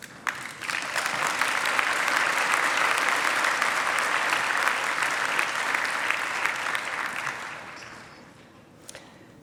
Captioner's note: applause